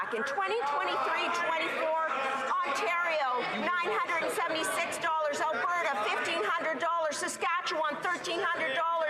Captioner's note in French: voix de l'interprète